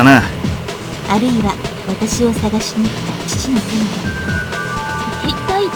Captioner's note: rain